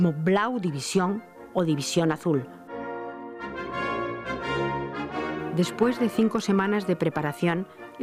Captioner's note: in German